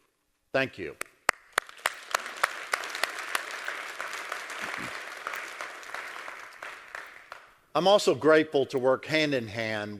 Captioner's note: applause